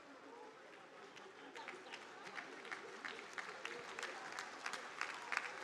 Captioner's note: audience applauding